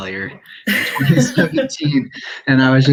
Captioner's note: laughs